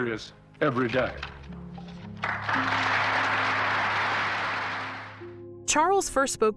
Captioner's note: audience applauding